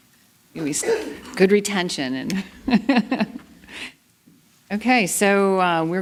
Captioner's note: laughter